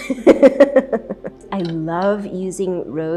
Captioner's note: chuckling